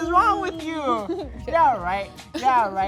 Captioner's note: girl giggles